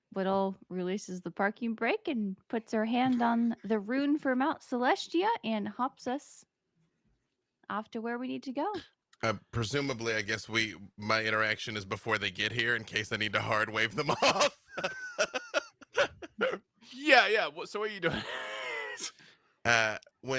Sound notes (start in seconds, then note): 14.0 laughs